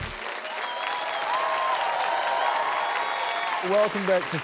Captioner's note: cheering, applause